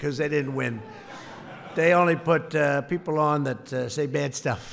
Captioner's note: laughter